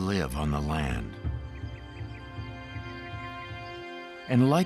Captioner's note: crickets chirping